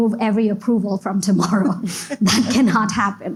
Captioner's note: giggles; laugh